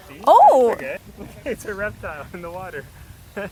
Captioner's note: chuckling